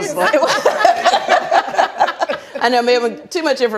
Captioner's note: laughing